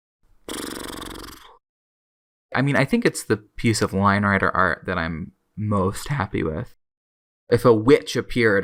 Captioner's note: lip-trill sigh